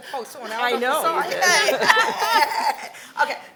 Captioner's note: congregation laughs